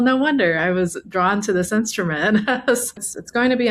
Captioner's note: chuckles